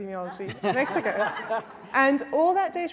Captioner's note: laughter